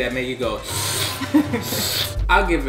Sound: inhaling

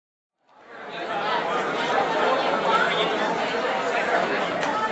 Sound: audience chattering

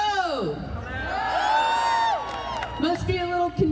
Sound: crowd cheering

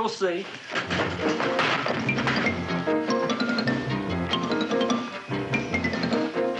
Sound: clattering; unsteady tense music

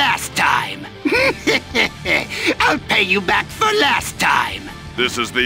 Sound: maniacal laugh

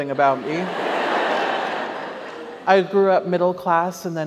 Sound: audience laughs

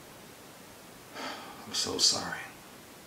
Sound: sighs

